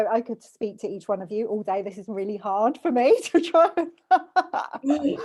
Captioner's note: laughs